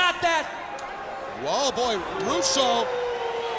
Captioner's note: wolf howling